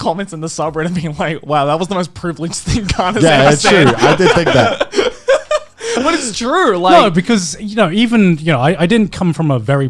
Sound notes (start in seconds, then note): 3.0 laughing